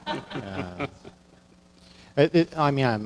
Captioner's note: audience laughing